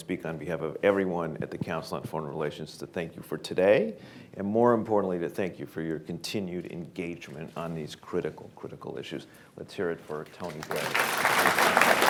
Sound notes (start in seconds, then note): 10.4 applause